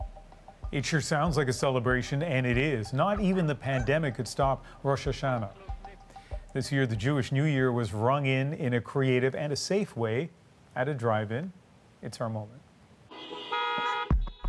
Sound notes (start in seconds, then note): 2.3 horns honking